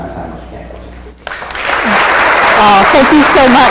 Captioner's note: applause